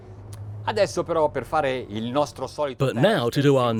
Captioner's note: speaking foreign language